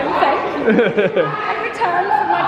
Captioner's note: laughs